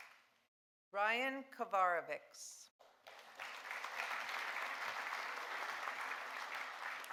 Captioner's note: audience applauding